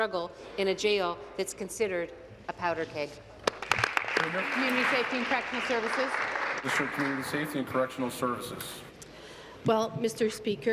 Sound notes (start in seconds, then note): 7.2 applause